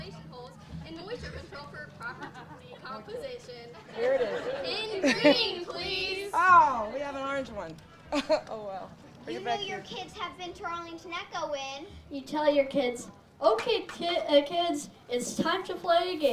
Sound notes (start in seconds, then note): 3.8 audience laughs; 7.9 laughing